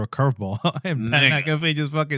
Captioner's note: speaking In Foreign Language